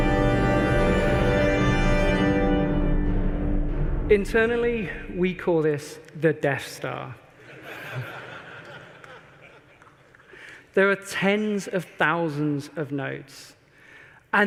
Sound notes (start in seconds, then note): 7.4 laughter